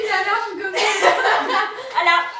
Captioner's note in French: rire